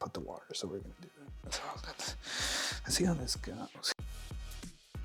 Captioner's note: snorts